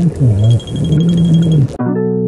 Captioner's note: is the instructor yelling underwater??